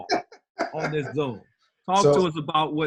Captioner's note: laughs